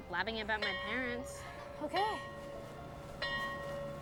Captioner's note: school bell rings